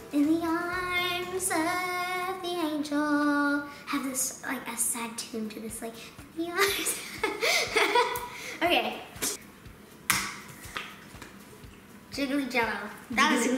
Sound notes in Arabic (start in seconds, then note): 7.0 يضحك